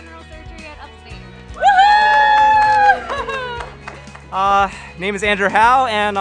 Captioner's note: cheering